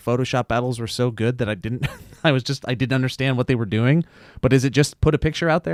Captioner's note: chuckles